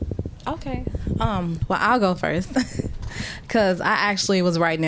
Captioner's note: laughter